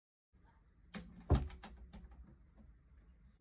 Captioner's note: door closes